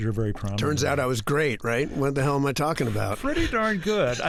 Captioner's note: laughter